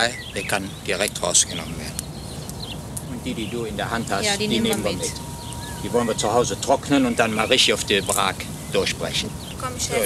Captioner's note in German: Arbeitsgeräusche und -gespräch